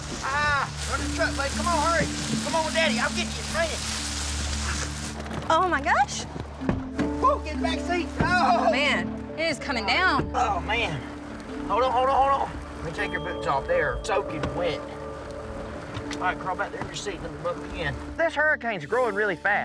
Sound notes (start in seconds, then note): 3.3 rain falling; 6.7 door closes